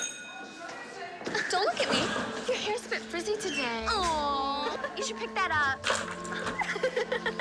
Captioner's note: laughing